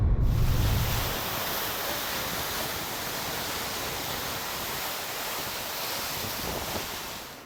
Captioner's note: sound of crashing waves